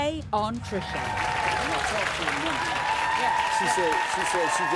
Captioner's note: audience cheering